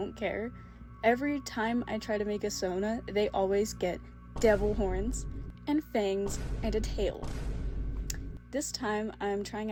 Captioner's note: boom sound effects